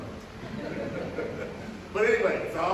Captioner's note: light laughter